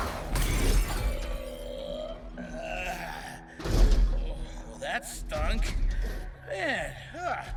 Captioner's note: groaning